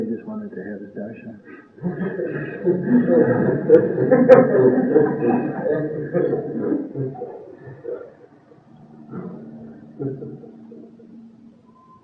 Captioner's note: laughter